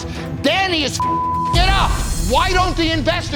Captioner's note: beep